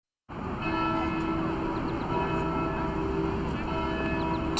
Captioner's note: bells pealing